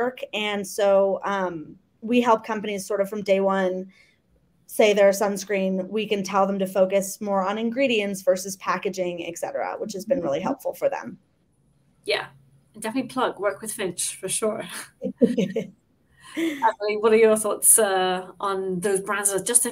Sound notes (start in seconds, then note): 14.9 laughs